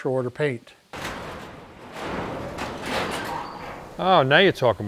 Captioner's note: garage door clanking